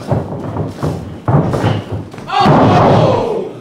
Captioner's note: audience cheering